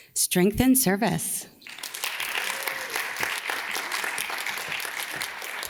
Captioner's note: audience claps